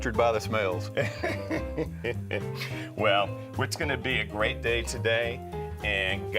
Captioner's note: laughs